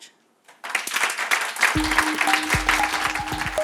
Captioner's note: audience applauding; bright music